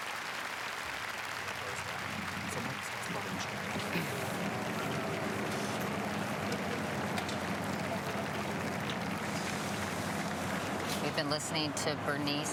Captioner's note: apapplplauausese